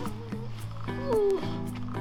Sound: groan

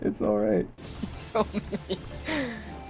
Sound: laughing

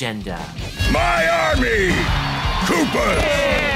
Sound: cheering

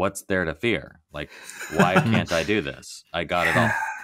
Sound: laughing

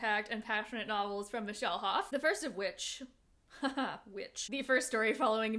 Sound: laughs

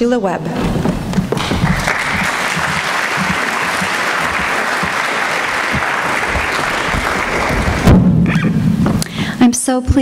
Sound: applause

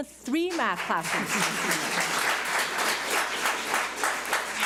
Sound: audience applauds

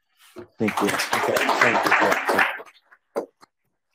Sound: audience applauding

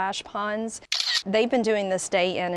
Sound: camera shutter

